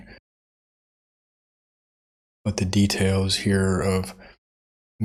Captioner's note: blank Audio